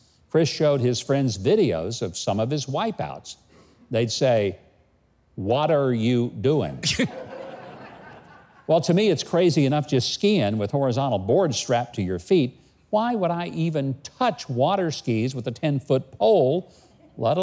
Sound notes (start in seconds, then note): 6.9 laughs